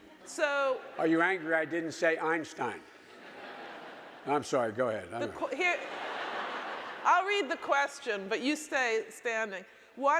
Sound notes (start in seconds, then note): 5.2 audience laughing